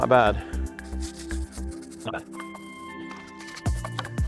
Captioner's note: scrubbing sound